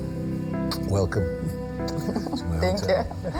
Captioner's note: laughing